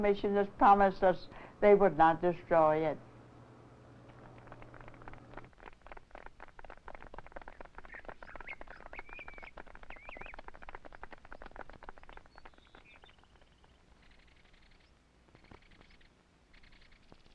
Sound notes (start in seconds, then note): 4.3 clapping